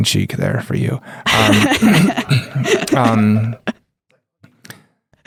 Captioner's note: laughs